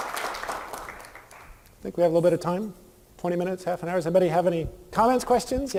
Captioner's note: applause